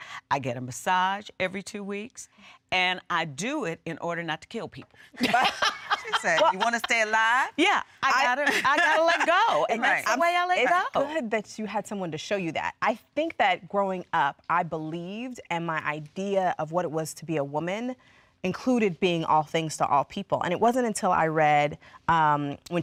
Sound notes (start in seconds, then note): 5.1 laughter